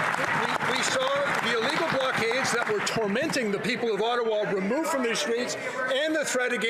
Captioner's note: applause